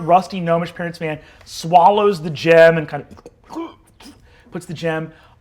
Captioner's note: mimics gulping